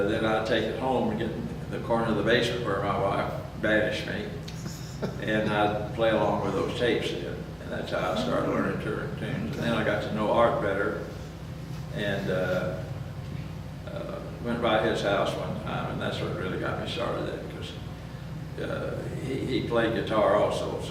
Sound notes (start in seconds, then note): 4.4 laughs